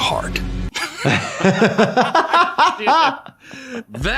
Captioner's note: laughing